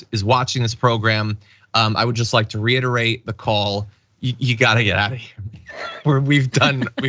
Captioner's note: laugh